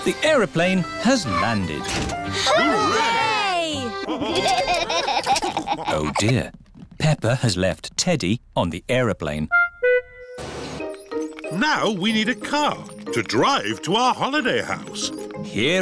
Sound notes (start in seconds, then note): 4.0 laughter